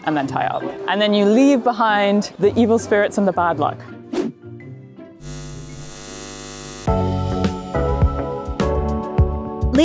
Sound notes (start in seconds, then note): 4.2 screen whooshing; 5.2 eyes buzzing; 6.8 upbeat music